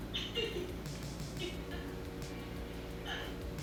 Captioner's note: laughing